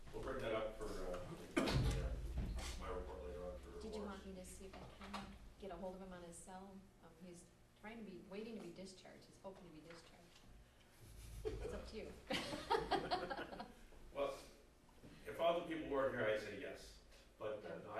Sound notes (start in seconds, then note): 12.2 background laughter; 12.2 laughter